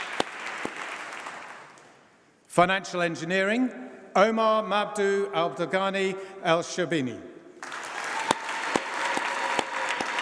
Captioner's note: applause